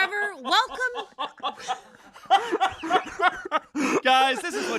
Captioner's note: laughter